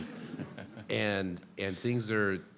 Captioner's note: people laughing